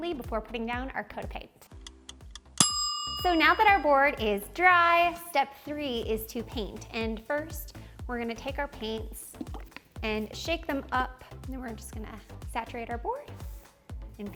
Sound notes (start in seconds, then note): 2.6 timer dinging